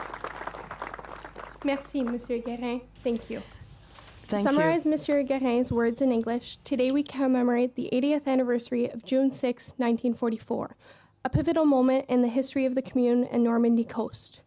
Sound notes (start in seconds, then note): 0.0 applause